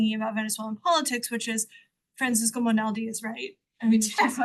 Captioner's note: all laugh